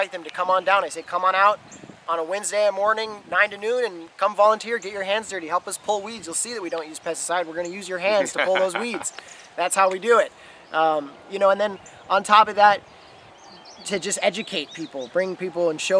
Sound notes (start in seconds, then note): 8.0 laughs